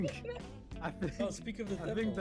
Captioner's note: laughs